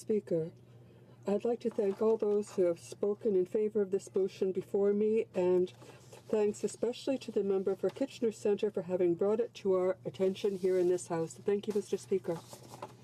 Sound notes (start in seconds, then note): 6.1 speaking in french